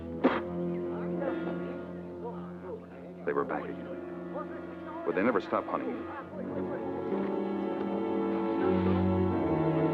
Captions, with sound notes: (Don spits) (Japanese troops chattering) They were back again. Would they never stopped hunting me? (suspenseful music)